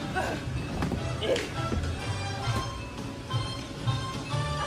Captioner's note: bright music continues; grunts; upbeat music